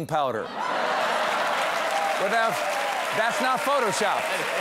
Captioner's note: cheers and applause